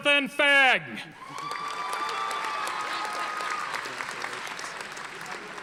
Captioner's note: audience applauding